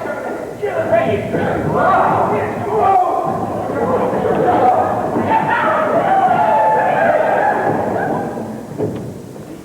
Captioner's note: shouting, scuffling